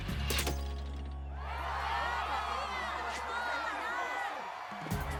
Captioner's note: cheers